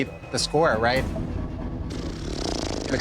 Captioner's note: blows raspberry